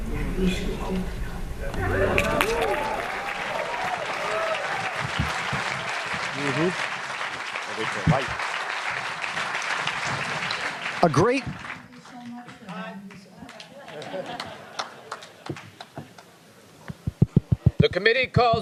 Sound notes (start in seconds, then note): 4.0 applause